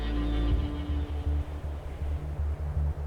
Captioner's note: wind howling